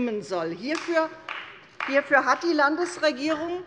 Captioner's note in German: Beifall bei Abgeordneten der CDU